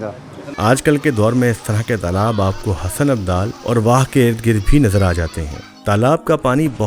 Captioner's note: wah